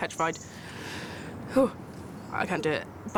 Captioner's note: exhales sharply